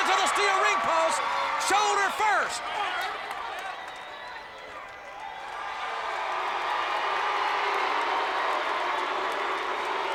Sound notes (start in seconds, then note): 5.6 audience applauds and cheers